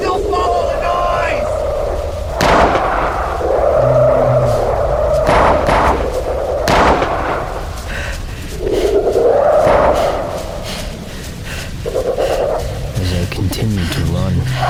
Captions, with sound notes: THEY'LL FOLLOW THE NOISE! [GUNSHOT] [Several creatures ROARING] [MORE GUNSHOTS] [GUNSHOT] -'As I continued to run...'